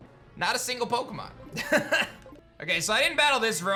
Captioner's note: laughs